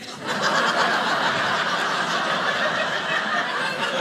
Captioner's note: audience laughing